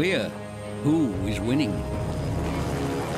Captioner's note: helicopter whirring